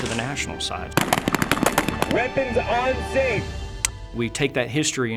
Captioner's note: weapons blast